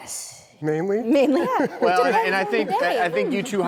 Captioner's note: laughing